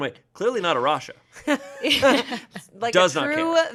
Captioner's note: everyone laughs